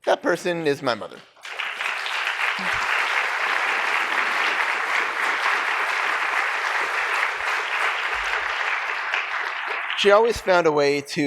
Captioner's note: applause